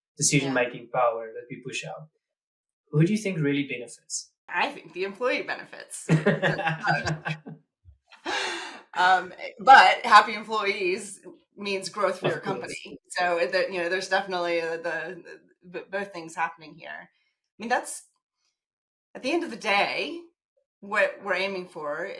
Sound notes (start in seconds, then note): 6.1 laugh